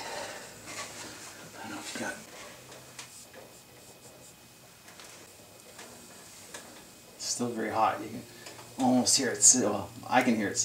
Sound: sizzles

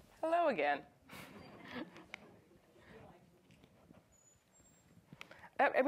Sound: audience chuckles

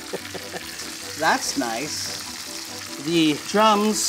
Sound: chuckles; chicken sizzles; lively music

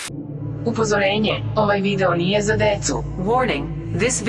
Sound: Serbian

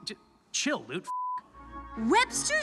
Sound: beep

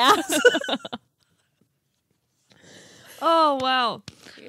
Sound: laughing

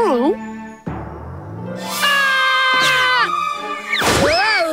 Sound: screaming

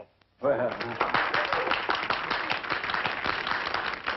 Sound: crowd applauding

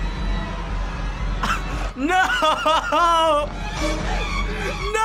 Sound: laughs; horror music

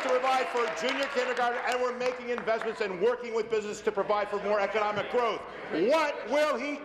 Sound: applause

